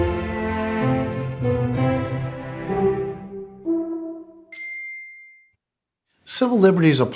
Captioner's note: classical music; chime